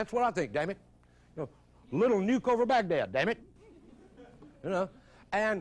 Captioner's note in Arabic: ضحكات الجمهور